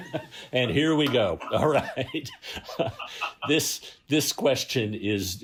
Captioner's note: laughter